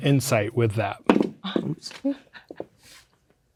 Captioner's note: objects clattering